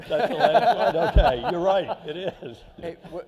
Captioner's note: laughter